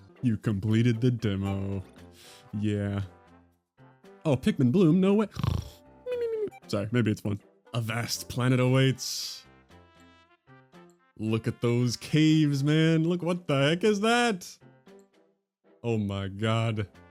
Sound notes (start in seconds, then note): 5.6 honk, mimimimimi